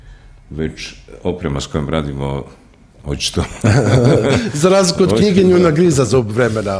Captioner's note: laughter